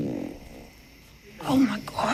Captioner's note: farts